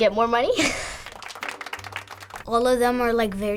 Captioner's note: chuckles; polite applause